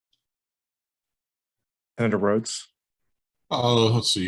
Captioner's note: none